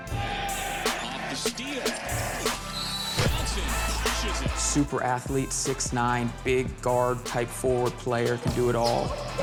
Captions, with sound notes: (crowd cheers) (whistle blows) Super athlete, 6'9". Big guard, type forward player. Could do it all.